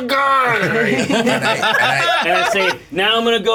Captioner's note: laughter